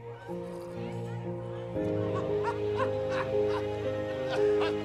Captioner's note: background chattering